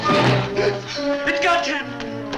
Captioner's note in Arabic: يتنهد